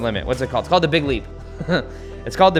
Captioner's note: laughs